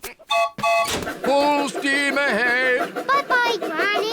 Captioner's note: piglets giggle; toots train whistle